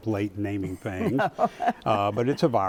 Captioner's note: laughs